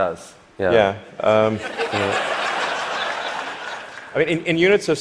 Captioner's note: laughter